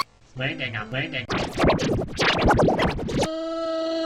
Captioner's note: heavily vibrato'd noises; monophonically slowed down groaning